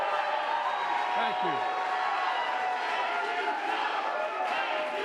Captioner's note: applause